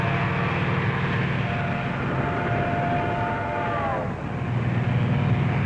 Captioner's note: train whistling